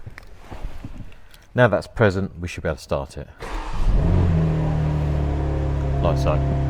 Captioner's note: car starts